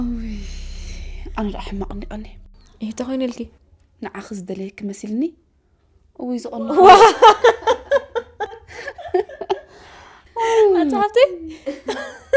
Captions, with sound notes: I have been worried sick. I have been worried sick. Why? Why? I thought he wanted you. I thought he wanted you. What miserable days... What miserable days... [LAUGHTER] [LAUGHTER]